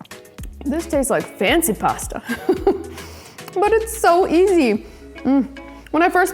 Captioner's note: laughs